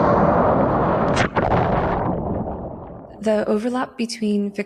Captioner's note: waves crashing; water bubbling